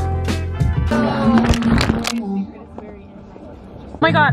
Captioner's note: upbeat music; phone crashes